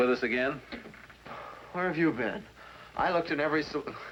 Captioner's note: sighs